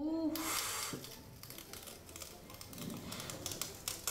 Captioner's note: crackling